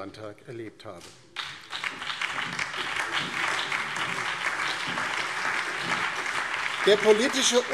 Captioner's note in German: Beifall DIE LINKE, BÜNDNIS 90/DIE GRÜNEN, SPD und vereinzelt CDU